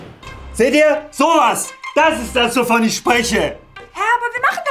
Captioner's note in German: laut